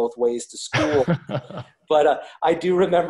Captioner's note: laughs